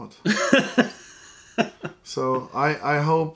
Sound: laughter

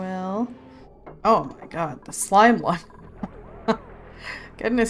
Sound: laughs

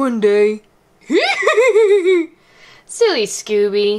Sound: laughs

